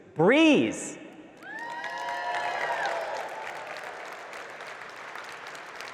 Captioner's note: audience cheering and clapping